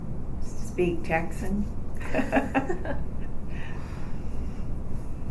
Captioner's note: laugh